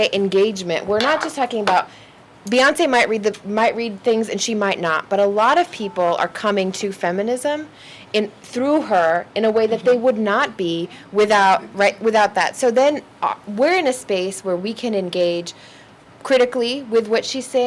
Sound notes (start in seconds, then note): none